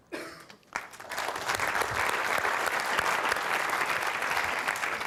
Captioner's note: applause